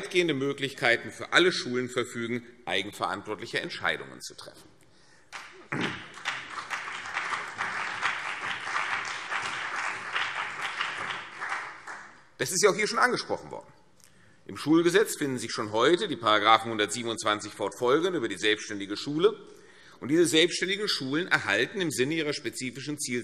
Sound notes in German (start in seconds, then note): 5.3 Beifall CDU und BÜNDNIS 90/DIE GRÜNEN